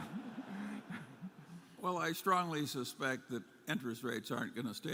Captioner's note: laughter